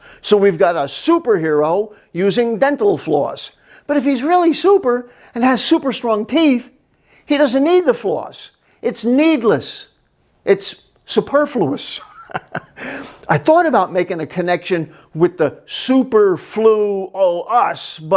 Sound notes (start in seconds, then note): 12.0 laughs